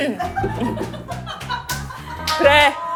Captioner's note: scraping